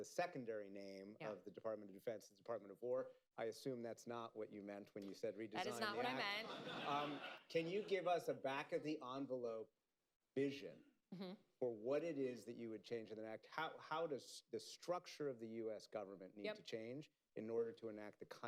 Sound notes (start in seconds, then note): 5.7 laughter